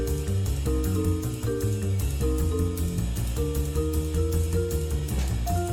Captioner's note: none